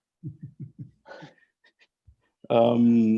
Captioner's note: laughing